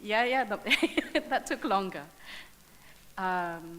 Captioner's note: laughs